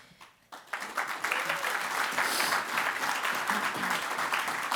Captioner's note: applause